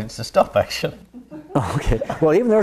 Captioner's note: audience laughs